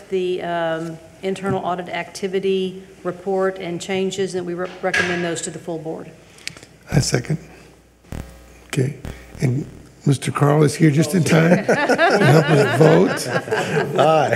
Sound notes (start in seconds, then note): 11.4 people chuckle